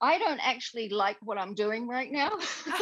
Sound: laughing

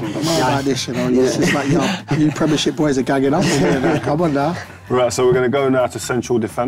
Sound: laughs

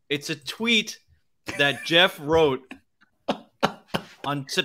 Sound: laughs

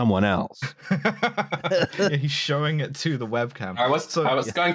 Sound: laughing

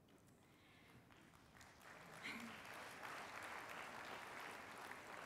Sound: applause

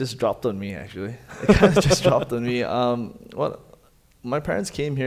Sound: laughing

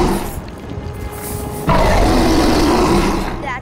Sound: roaring; roaring

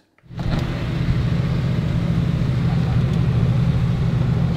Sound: traffic whooshing

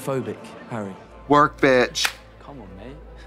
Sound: Katya clapping

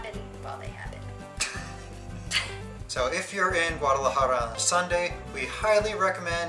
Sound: laughter

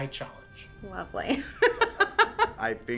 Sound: laughs

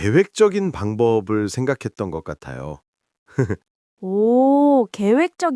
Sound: laughs

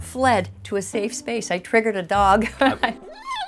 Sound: dog whimpering

